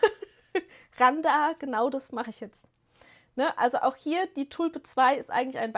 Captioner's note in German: gelächter